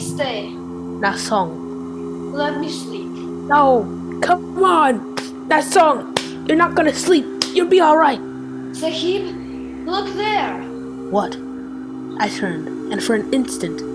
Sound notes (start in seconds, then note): 3.3 slapping his face; 11.2 narrating